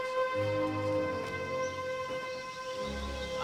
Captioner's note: birds chirping